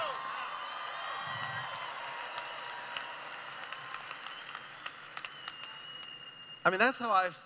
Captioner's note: cheering